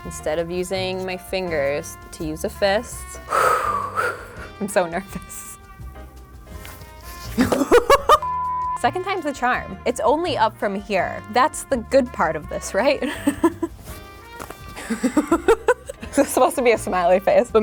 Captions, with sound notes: instead of using my fingers, to use a fist. (exhales) I'm so nervous. (laughs) Second time's a charm, it's only up from here. That's the good part of this, right? (laughs) (laughs) This is supposed to be a smiley face,